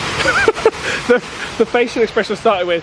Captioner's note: laughing